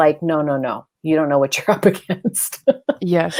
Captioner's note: laughs